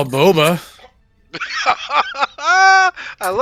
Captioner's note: laughter